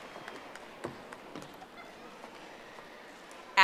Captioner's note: audience applauding